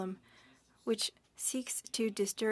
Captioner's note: speaking French